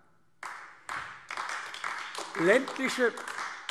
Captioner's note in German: Beifall AfD